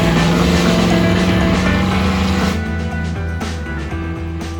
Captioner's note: rumble and Peel out